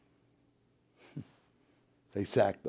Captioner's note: chuckles